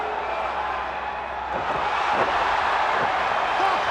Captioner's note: crowd cheering